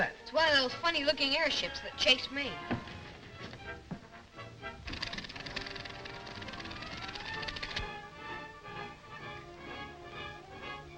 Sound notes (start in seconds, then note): 4.8 elevator clicks